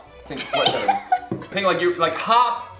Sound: choking laugh

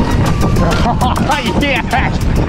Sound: laughs

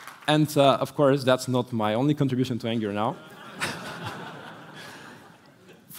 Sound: laughter

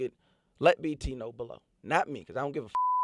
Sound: beep

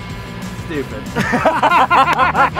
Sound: laughter

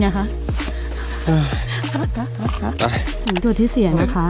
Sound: panting; หอบ

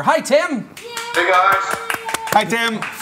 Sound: applause

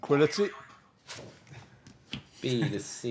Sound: boing

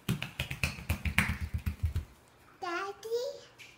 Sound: footsteps

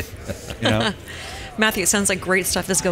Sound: laughs

